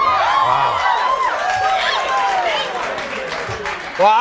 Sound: audience cheering

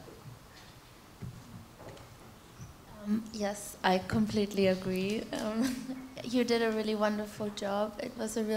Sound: laughter

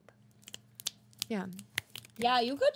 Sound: girls snapping fingers

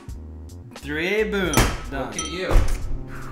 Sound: ding ding

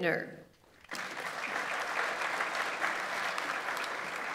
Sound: audience applauds

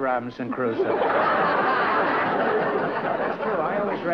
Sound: laughter

